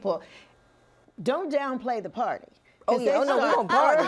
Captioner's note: laughter